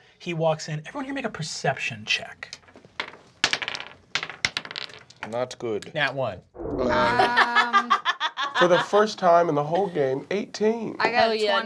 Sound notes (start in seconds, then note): 2.5 dice bouncing; 6.9 laughing